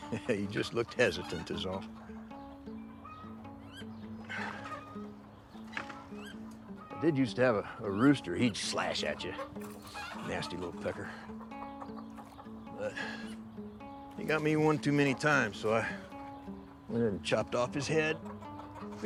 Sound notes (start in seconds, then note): 0.0 chuckles; 2.7 soft gentle bright music; 4.3 Abe sighs; 5.8 door clicks